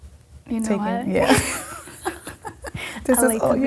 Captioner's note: laughing